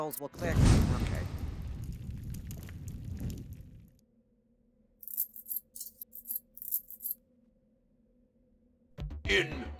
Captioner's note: Sound of Santa hat being immolated